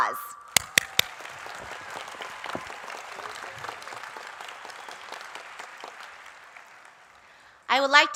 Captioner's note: applause